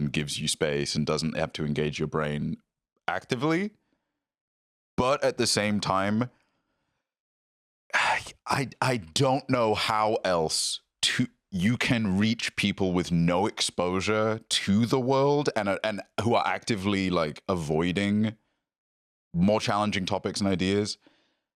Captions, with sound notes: and gives you space and doesn't have to engage your brain actively. But at the same time... (sighs) I don't know how else you can reach people with no exposure to the world and who are actively avoiding more challenging topics and ideas